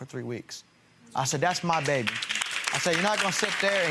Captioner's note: audience applauds